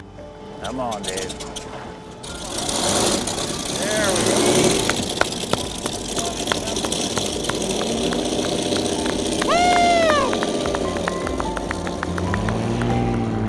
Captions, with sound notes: Come on, Dave. (engine starts) (people clap and cheer)